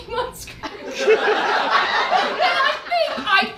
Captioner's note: audience laughs